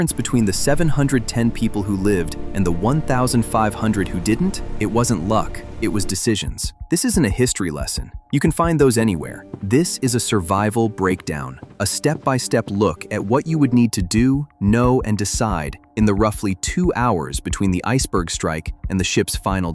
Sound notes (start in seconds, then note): 6.9 speaking with emphasis